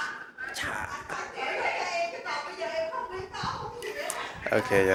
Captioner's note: happy Vietnamese background noises